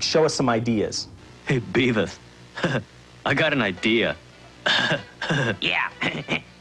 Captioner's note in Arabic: ضحكة خافتة; ضحكات خافتة